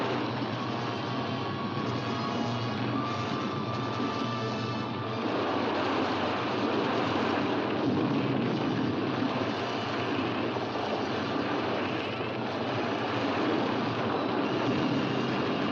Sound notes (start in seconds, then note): 0.1 suspenseful music; 5.1 rushing water